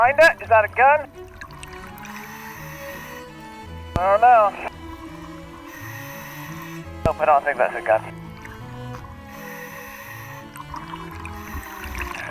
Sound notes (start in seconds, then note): 1.9 classical music playing; 2.0 deep breathing; 8.0 deep breathing; 9.1 classical music playing